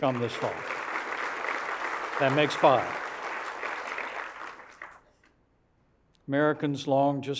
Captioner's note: applause